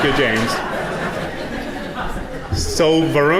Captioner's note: audience laughing